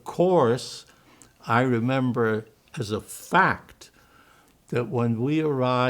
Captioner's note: german